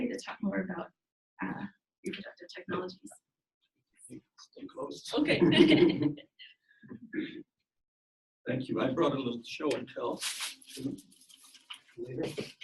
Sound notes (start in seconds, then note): 5.2 laughs